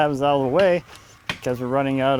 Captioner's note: ax hammering